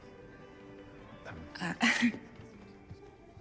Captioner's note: chuckling nervously